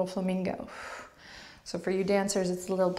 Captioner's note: strong outward breath